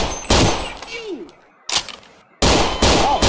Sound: none

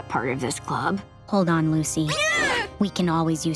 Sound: screaming

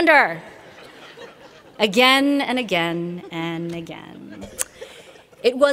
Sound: laughter

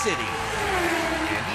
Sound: race car zooms

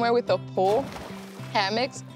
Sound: water splash

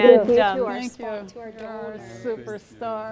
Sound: all chattering

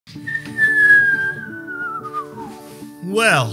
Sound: descending whistle

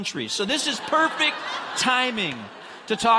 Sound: congregants laughing

